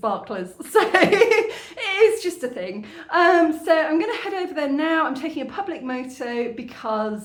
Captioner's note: laughing